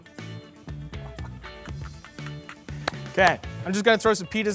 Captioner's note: chuckles; claps in excitement